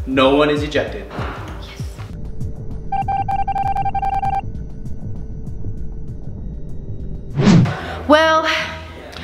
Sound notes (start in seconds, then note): 2.1 beeping as words appear; 7.2 whoosh